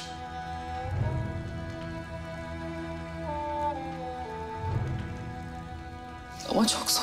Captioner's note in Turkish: Ateş Çıtırtısı Sesleri